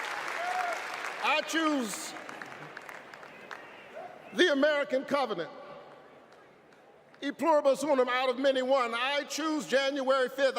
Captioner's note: applause